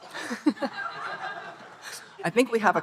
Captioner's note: audience cheering; audience and Speaker laughing